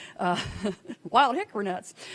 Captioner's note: laughing